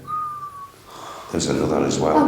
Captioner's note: whistling